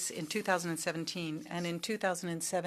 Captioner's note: speaking French